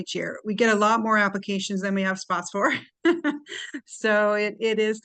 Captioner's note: laughs